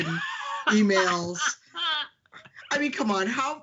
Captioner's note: laughing